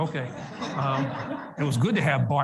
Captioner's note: audience laughs